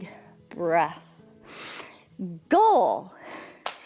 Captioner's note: inhales